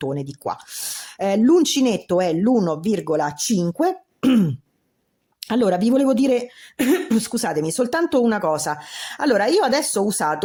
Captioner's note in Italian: schiarire la voce